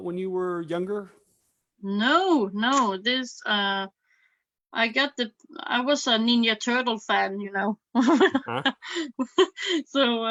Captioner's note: laughs